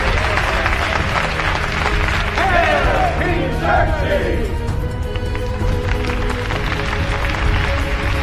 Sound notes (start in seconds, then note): 0.0 audience applauds